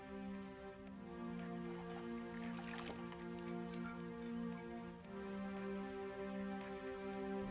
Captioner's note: sound of dishes being washed